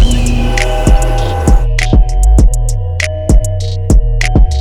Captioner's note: airplane engine noise